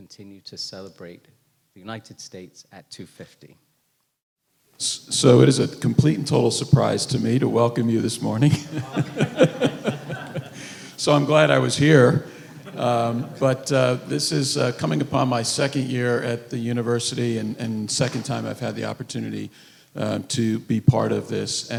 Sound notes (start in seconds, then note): 8.4 laughing with audience